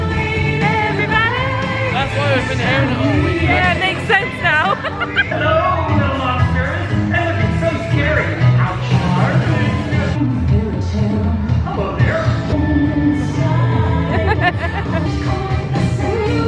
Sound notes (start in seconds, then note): 4.4 giggling; 10.2 upbeat creepy music